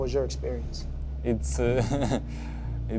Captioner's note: chuckles